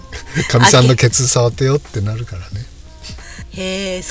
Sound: laughs

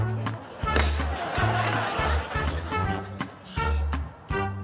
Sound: audience laughing; ball clattering on shelf; upbeat music

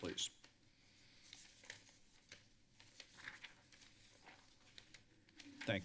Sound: paper rustling

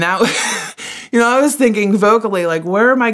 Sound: laughs

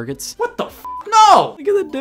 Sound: beep

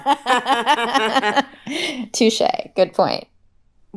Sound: laughs

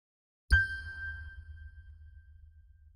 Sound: ding

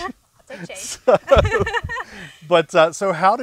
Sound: both laughing

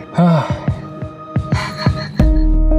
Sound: is chuckling

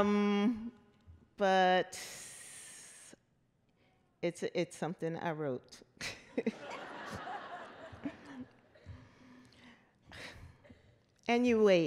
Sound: laughter

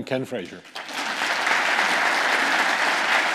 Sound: audience applauding

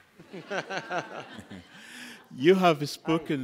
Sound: laughter

